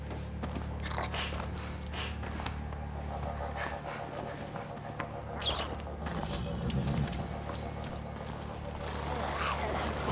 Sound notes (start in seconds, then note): 1.3 bell jangling; 5.3 rat squeaking